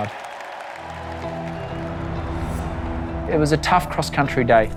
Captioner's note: applause